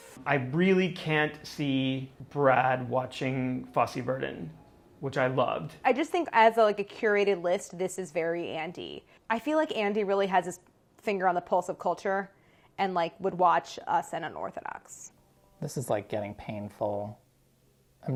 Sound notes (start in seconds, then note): none